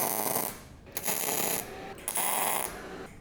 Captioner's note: drilling